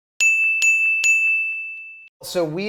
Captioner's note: high pitched bell dings